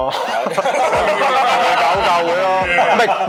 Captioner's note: laughter